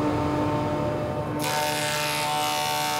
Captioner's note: loud whirring